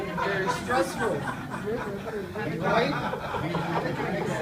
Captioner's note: audience laughs